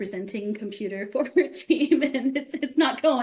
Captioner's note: laughing